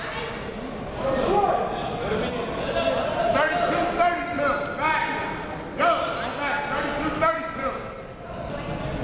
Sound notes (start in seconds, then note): 3.9 coaches yelling